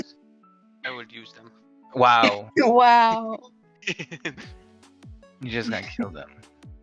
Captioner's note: laughs